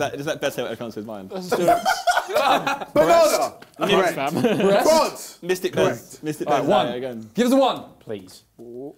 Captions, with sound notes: Is that your dice or I count as mine. (both laughing) (crowd mumbling) - The lost. - All right fam. - Breast? - Court. - A one, give us a one please.